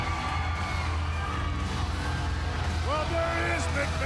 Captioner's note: audience cheering